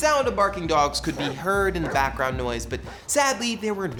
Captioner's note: barking